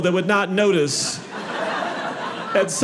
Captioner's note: audience laughing